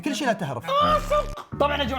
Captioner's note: screams